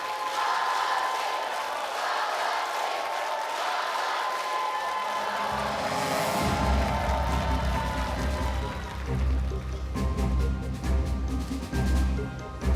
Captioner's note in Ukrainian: оплески